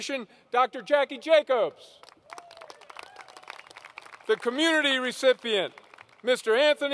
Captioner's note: applause